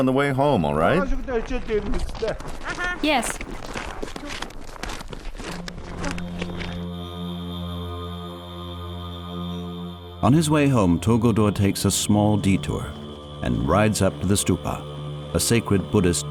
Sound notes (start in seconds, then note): 4.3 boy's English Voiceover; 6.8 mystical music